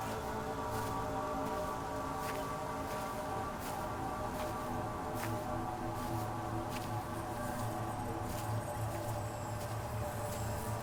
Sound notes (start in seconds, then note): none